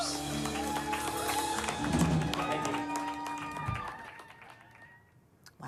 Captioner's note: crowd cheers and applauds